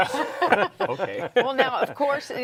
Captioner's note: group laughs